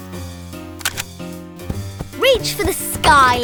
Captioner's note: gun cocking